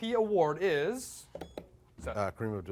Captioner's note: beep